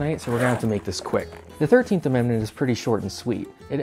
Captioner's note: unzipping